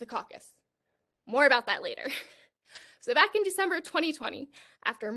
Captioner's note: laughter